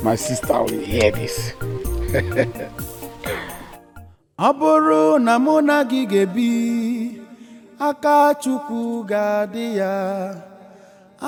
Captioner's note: clears throat